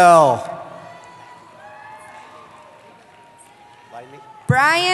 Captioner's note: cheering